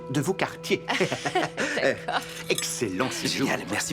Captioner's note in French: rire